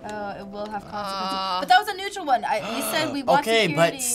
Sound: gasping

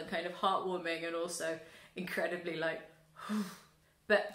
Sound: big exhale

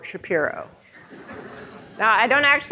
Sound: audience laughing

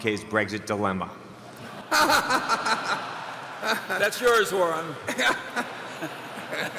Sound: laughter; laughter

